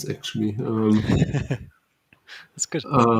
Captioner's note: laughs